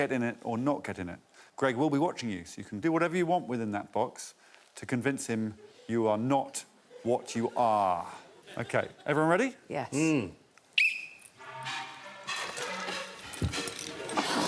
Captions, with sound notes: You're gonna have 30 seconds to either get in it or not get in it. Greg will be watching you, so you can do whatever you want within that box to convince him you are not what you are. -Okay, everyone ready? -Yes. Hmm. [Blows whistle]